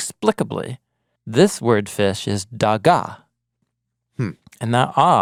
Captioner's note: speaking in Hebrew